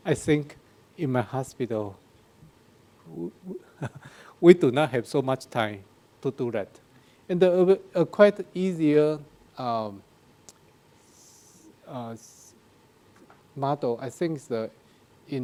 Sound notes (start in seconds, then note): 3.1 laughs